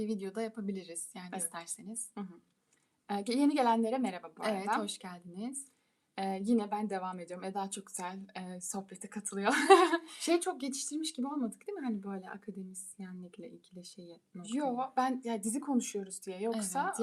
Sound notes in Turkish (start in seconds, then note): 9.5 kahkaha